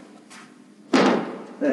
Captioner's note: thump